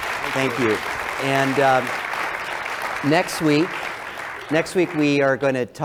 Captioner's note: applause